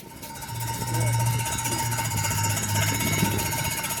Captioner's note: buzz saw sound